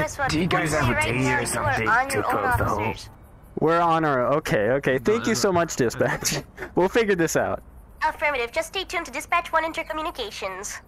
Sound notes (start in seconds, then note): 5.0 laughs